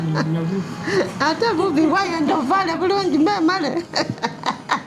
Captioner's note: speaking in Lusoga